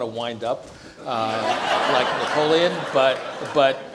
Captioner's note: audience laughs